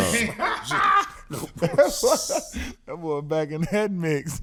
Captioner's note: laughing